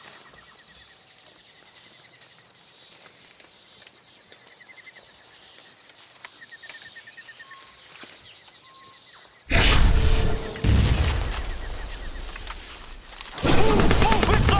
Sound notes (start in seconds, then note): 9.5 explosion